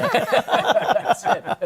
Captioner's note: laughter